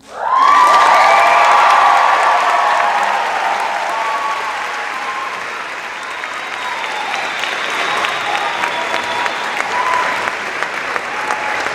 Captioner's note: cheers and applause